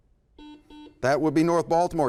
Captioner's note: buzzer